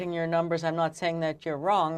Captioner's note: speaking in French